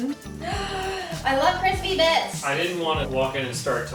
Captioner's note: gasps